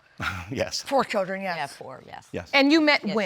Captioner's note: chuckles